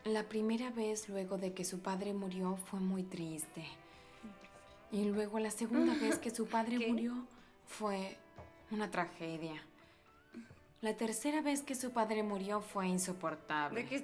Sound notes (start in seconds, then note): 5.7 laughs